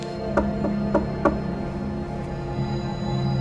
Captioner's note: knocking